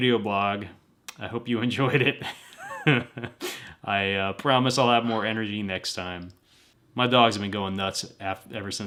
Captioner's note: laughter